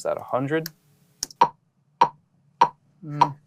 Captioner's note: tapping sound